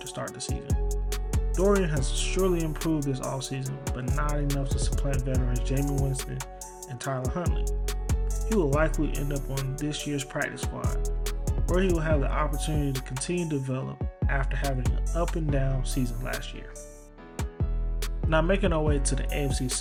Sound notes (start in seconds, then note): 18.9 voiceover